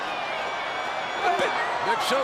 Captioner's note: crowd cheering